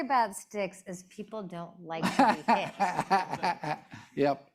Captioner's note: laughing